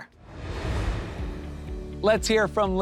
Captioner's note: air whooshes